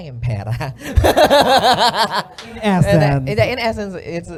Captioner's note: laughter